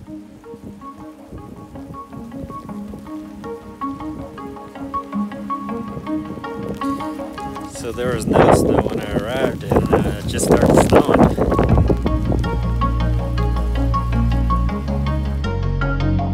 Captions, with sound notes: (upbeat music) - So there was no snow when I arrived, and just started snowing. (wind whistling) (upbeat music)